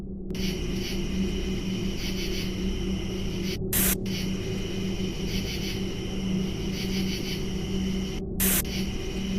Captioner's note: buzzing sound